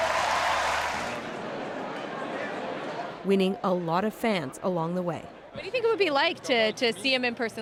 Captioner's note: cheers and Applause